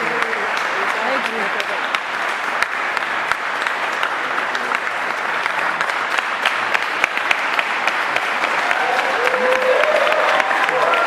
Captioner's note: applause